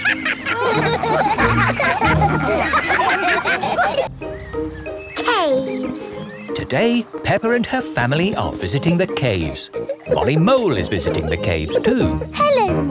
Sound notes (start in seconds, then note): 0.0 all laugh